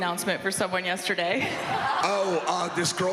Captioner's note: audience laughs